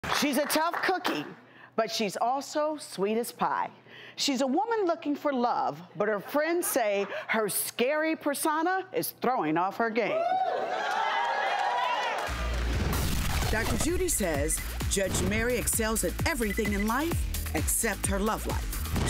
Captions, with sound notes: - She's a tough cookie, but she's also sweet as pie. She's a woman looking for love, but her friends say her scary persona is throwing off her game. (audience cheering) Dr Judy says Judge Mary excels at everything in life, except her love life.